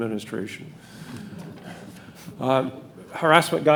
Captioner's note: audience laughing